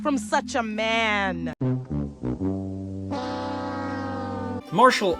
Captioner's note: The Price is Right losing horn SFX